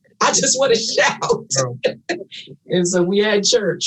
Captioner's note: panelists laughing